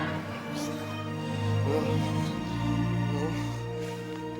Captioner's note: groaning